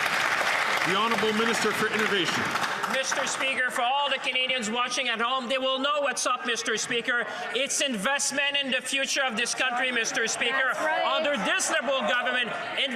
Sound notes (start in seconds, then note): 4.0 some Applause